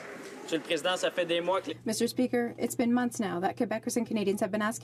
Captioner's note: applause